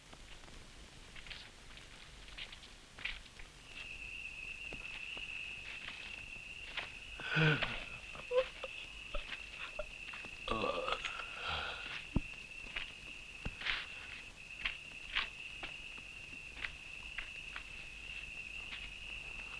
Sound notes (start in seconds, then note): 4.0 insects chirring; 7.2 Leoni yawns